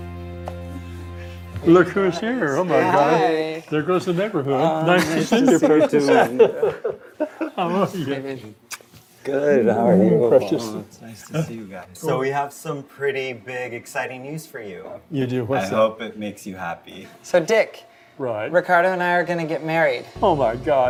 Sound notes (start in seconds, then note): 0.0 upbeat music; 7.4 all laugh